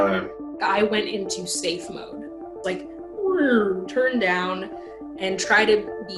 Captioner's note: groaning